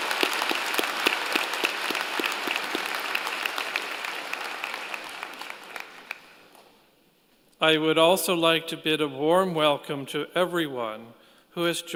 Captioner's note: applause